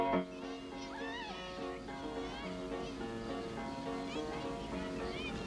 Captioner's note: girls shouting happily